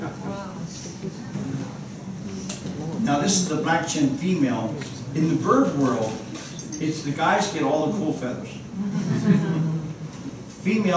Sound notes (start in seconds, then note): 8.8 laughter